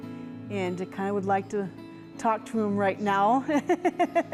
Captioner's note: laughing